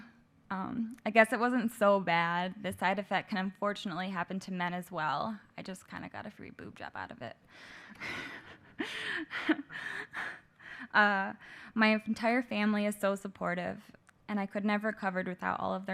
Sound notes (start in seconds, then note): 8.2 laughter